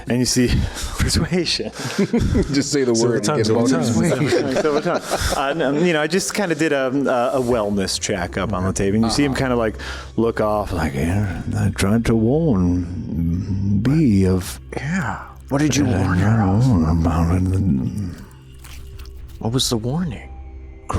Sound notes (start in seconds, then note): 1.8 laughs; 4.0 laughs